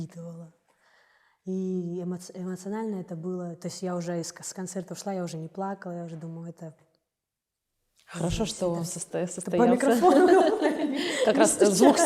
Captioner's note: knocking on mic